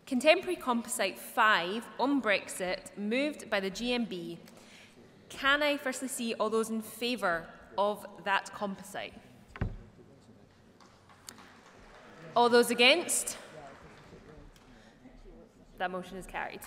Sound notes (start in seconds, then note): 10.8 applause